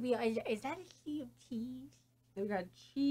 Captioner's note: quietly, about Amy’s drawing